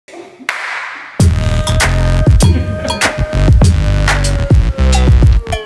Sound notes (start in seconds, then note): 0.4 claps; 1.1 upbeat music